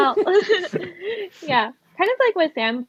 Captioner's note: laughs